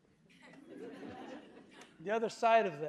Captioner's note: audience laughing